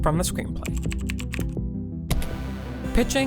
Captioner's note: suspenseful music; keyboard clicking